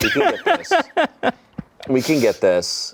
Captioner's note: laughs